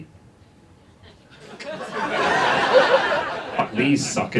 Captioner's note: audience laughs